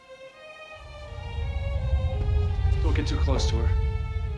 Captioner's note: rumbling crescendo